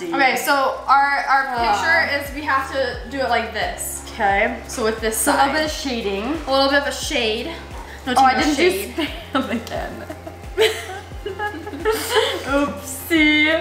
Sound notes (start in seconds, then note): 10.3 laughing